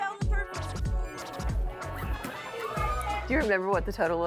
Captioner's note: cash Register sounds and beeps